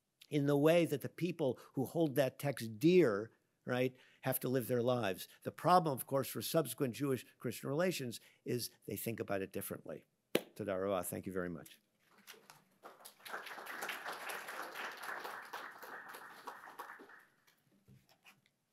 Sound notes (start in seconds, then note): 10.2 speaks Hebrew; 12.7 audience applauding